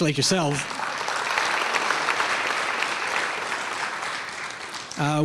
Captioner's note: clapping